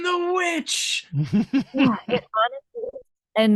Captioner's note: laughs